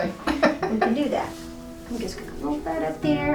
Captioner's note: chuckles